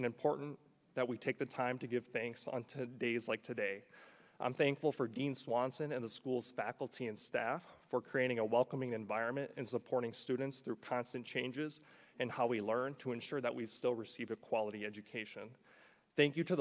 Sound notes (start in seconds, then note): none